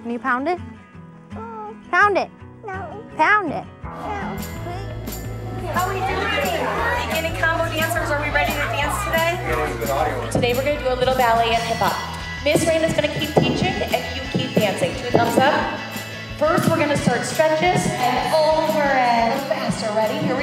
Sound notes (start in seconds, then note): 4.9 upbeat pop music; 6.9 children talking indistinctly